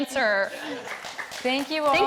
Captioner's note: audience clapping and laughing